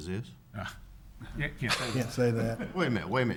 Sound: laughing

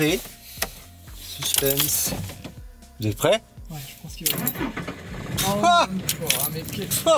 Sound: laughs

